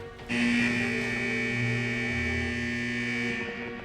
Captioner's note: alarm buzzing